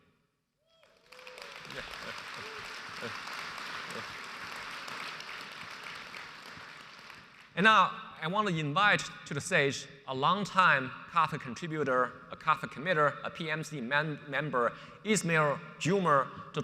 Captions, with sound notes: (audience applauds) And now I wanna invite to the stage a longtime Kafka contributor, a Kafka committer, a PMC member, Ismael Juma,